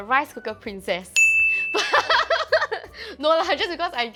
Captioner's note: laughs